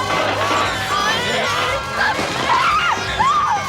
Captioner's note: cheers and applause; baby cries